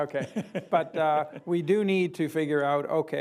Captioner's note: laughs